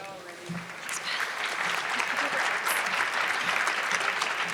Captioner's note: audience clapping